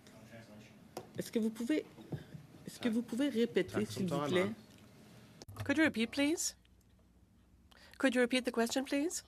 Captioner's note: speaking French